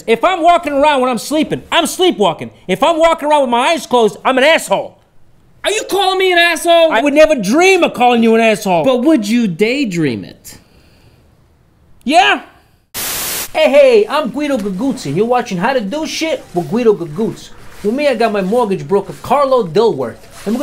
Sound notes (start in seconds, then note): 12.9 static hisses